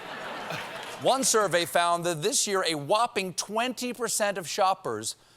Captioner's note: laughter